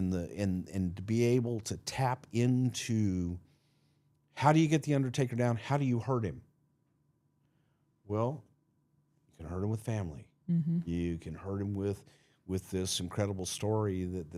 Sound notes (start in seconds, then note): none